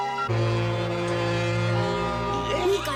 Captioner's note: honk